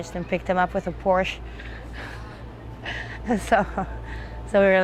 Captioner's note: laughing